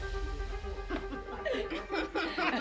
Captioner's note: dramatic music; pulsing music; indistinct chatter; laughs